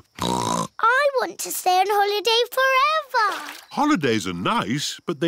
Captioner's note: snorts